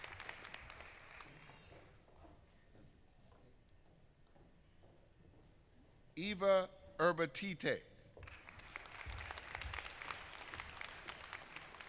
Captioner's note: applause